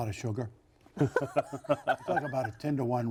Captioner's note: giggling